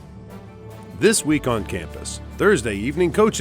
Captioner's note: voiceover